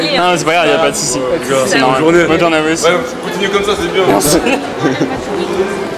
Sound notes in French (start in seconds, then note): 4.2 rigolent